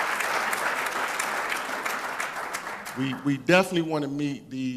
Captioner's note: applause